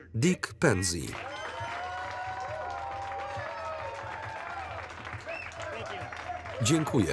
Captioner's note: cheers